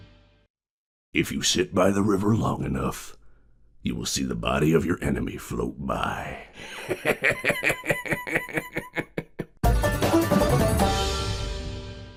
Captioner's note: laughs; banjo Solo